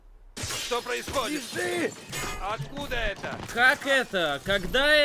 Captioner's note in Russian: звон разбивающегося стекла, свист пуль